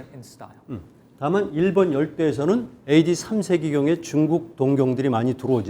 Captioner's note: speaking in Korean